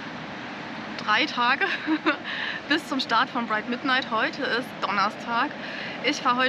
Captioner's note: laughs